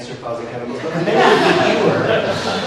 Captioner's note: audience laughs